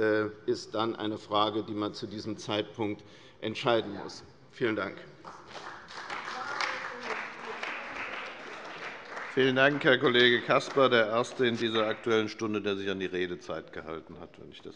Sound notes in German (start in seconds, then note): 5.2 Beifall bei der CDU und dem BÜNDNIS 90/DIE GRÜNEN